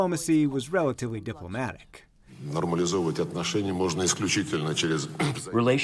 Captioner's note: through translator